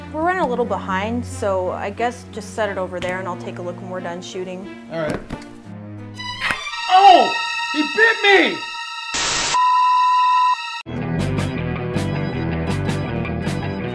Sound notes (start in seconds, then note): 9.2 error beep; 10.7 rock music